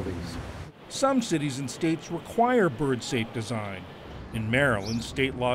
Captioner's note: voice-over